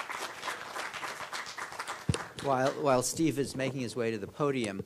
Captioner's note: applause